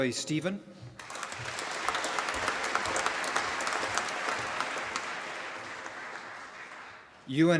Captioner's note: applause